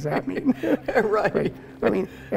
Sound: laughing

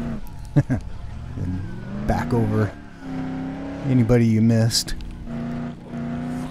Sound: chuckle

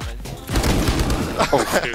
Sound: guns firing; laughs

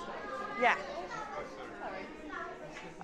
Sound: man speaking English

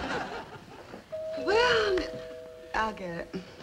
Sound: audience laughing; doorbell ringing

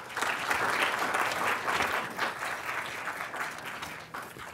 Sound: applause

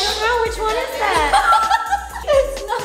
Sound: laughing

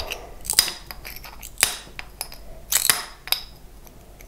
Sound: snapping

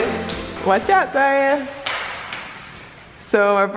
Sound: shoes clapping

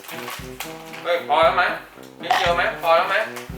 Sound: none

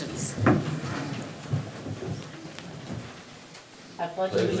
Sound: chairs clattering

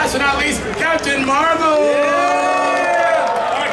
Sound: audience cheering

